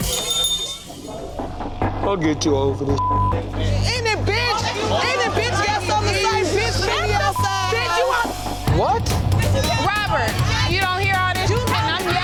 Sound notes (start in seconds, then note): 0.0 bell chiming; 2.9 beep